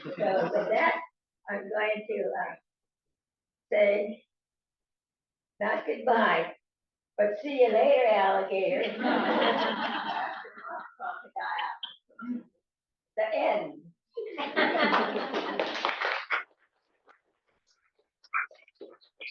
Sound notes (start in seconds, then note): 8.8 laughter; 14.2 laughter; 14.8 applause